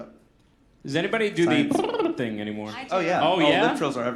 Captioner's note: trill